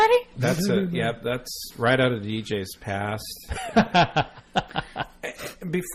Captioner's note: DJ laughs